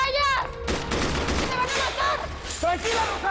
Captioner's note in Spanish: Disparos